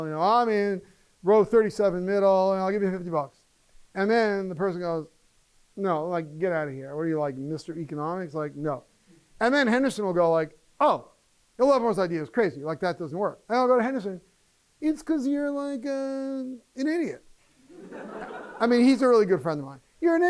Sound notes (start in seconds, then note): 17.6 laughter